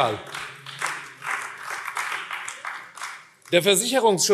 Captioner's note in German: Vereinzelter Beifall AfD